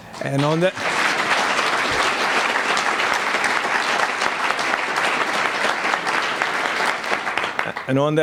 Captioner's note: applause